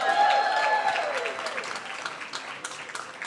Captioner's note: cheering